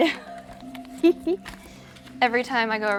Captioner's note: laughs